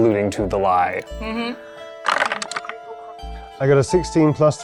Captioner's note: dice clattering